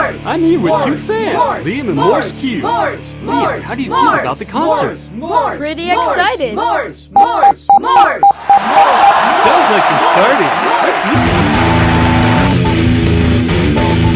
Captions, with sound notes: I'm her with two fans. Liam and Morsecube. Liam, how do you feel about the concert? - Pretty excited. (robot beeping) (audience applauding) - I think it's starting. (metal music)